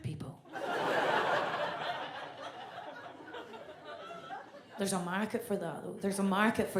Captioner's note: audience laughs